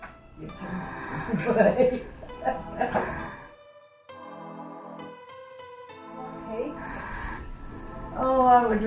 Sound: laughter

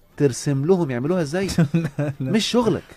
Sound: laughing!

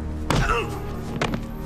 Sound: thwack

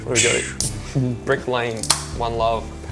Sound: can opening

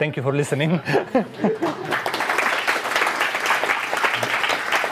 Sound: applause

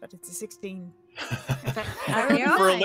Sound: all laugh

